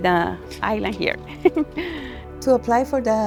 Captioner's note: laughs